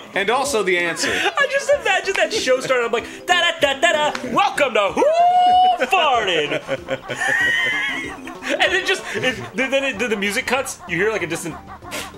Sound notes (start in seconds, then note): 5.9 laughter